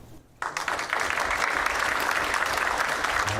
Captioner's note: applause